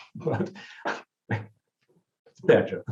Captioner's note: chuckles